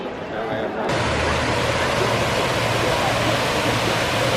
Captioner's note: water gushing